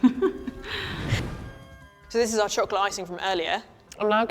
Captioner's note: laughs